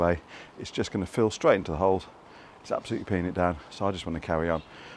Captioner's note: raining